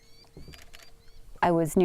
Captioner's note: camera shutter